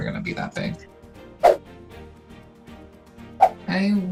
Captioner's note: upbeat music; swooshing